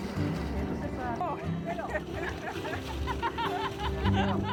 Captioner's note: people laughing